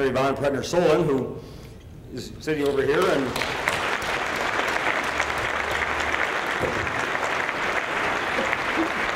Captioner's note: applause